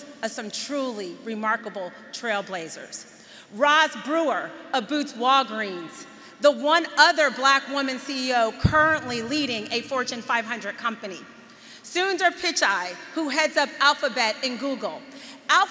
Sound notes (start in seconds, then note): none